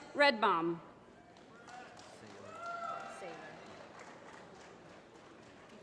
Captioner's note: applause